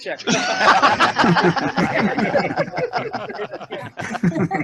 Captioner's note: laughter